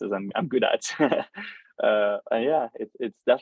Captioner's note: laughs